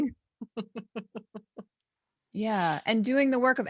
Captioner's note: laughing